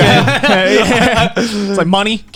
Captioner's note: laughing